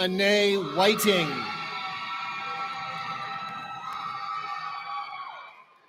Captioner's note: cheering